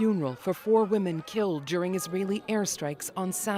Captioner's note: crowd noise